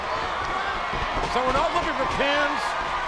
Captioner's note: audience cheering